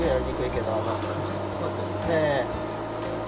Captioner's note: laugh